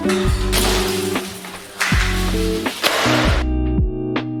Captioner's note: panel crashing